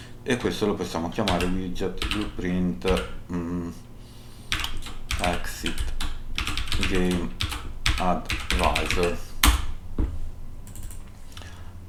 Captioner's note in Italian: schiarire la voce